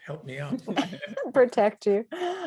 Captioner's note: both laughing